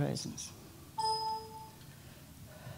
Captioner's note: computer error sound